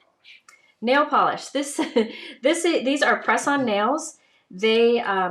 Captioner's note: laughs